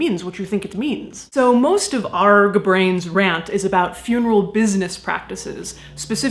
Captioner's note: regular voice